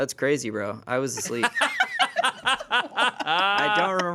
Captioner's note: everyone laughs